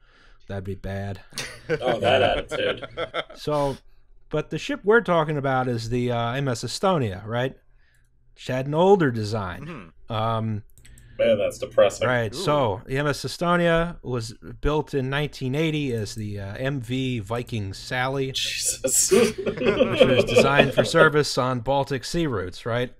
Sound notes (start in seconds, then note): 19.0 laughter